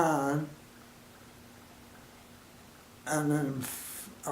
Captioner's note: silence